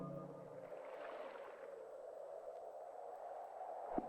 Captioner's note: moving water; wind whistling